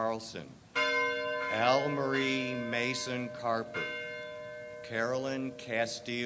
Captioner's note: bell tolls